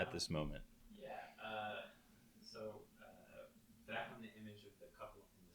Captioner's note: faintly speaking